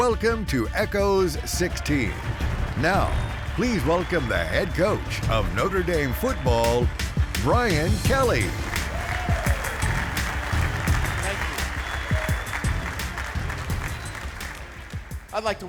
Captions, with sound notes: WELCOME TO "ECHOES 16." NOW, PLEASE WELCOME THE HEAD COACH OF NOTRE DAME FOOTBALL, BRIAN KELLY. [ cheers and applause ] >> THANK YOU.